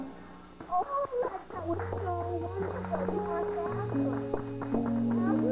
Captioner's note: crowd cheering; clapping